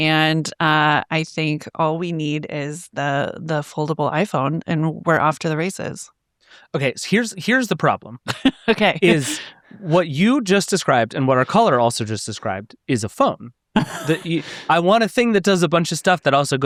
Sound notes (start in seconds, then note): 8.2 laughing; 13.8 chuckles